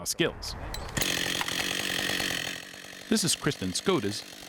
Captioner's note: chainsaw buzzing